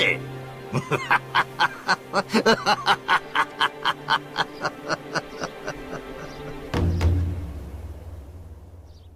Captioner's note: laughs